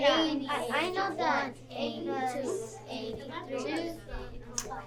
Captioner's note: students chattering